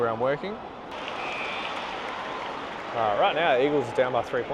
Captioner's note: crowd applauding